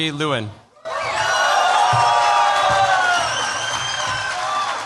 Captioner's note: cheers, applause